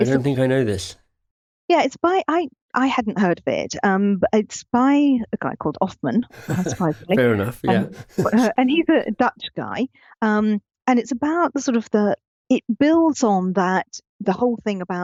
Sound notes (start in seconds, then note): 6.3 chuckling